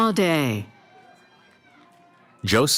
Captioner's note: cheering